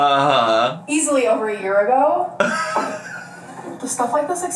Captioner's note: laughs